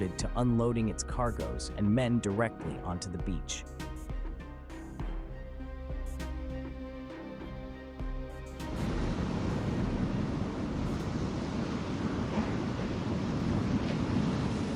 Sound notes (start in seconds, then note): 4.1 dramatic music; 10.3 waves crashing